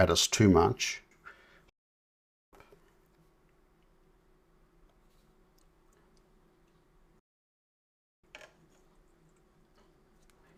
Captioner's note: silence